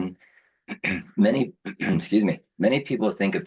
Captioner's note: clears throat